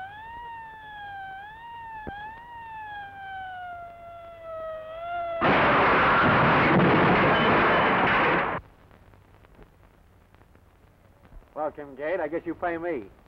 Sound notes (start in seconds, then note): 5.4 metal crashing